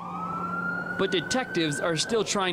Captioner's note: / :nats of sirens